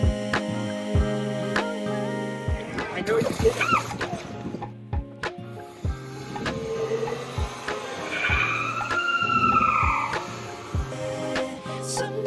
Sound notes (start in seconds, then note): 3.0 shrieks; 8.8 shrieks